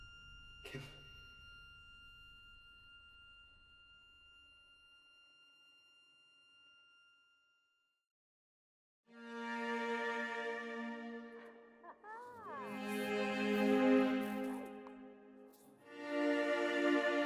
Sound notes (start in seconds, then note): 9.2 gentle instrumental music; 11.8 chuckles; 12.4 gentle instrumental music